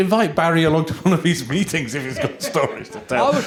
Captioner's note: laughter